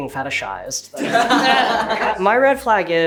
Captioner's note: group laughing